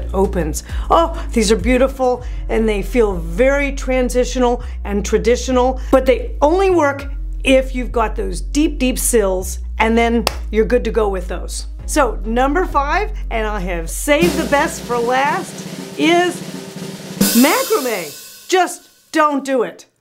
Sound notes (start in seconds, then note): 10.2 loud clap; 14.0 drum roll; 16.9 loud boom